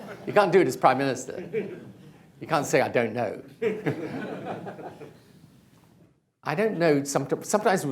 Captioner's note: laughter; laughter